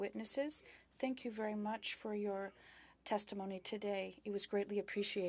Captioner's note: speaking French